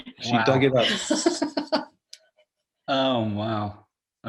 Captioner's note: woman laughing